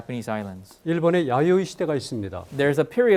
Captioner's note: speaking in Korean